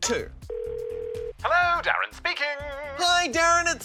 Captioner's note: ringing tone